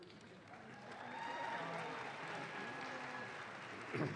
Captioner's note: audience claps